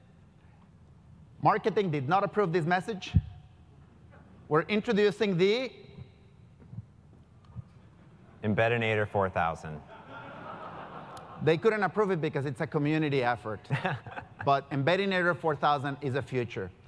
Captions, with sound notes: Marketing did not approve this message. We are introducing the >> Embedinator-4000. >> They couldn't approve it because it's a community effort >> [LAUGH] >> But Embedinator-4000 is the future.